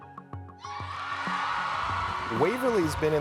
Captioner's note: crowd roars